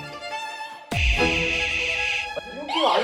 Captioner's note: A sound indicating that someone's been eliminated